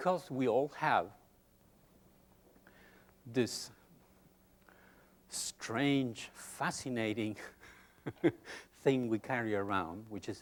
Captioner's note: chuckles